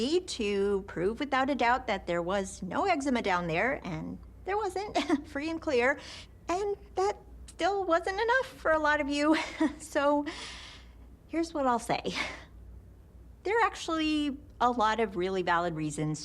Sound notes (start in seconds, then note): 4.7 chuckles